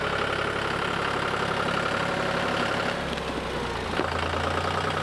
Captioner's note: tractor engine running